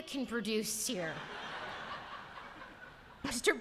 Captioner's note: laughter